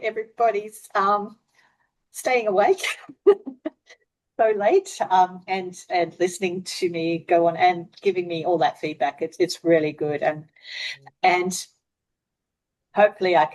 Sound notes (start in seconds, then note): 3.4 laughs